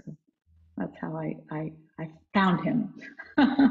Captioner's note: laughs